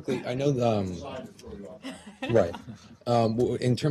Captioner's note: laughter